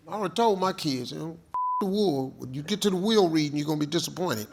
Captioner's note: beep